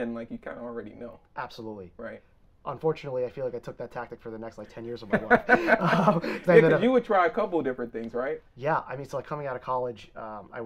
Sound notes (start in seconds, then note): 5.1 both laughing